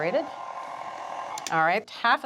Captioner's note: mixer whirring